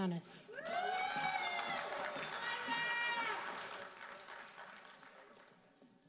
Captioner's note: audience cheering and applauding